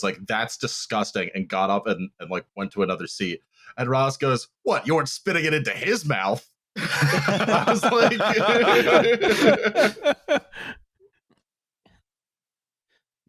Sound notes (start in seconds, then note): 6.8 laughter; 10.0 laughs